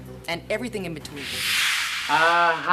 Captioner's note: whoosh